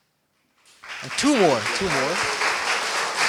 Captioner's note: applause